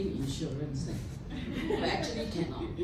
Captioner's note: laughter